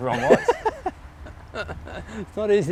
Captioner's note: laughs